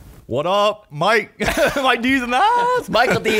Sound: laughing

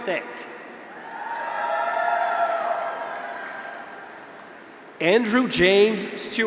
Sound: graduates cheer; audience applauds

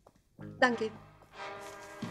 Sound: in German

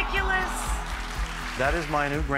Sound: audience oohs and applauds

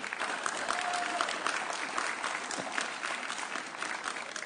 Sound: audience cheering

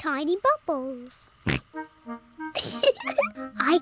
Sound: oinks; giggles

